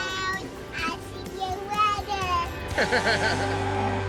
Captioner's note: laughter